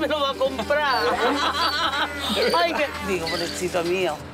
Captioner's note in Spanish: Risas